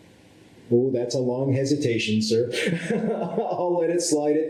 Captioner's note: laughs